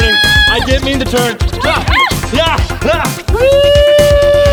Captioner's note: screaming